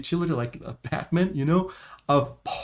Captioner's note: chuckles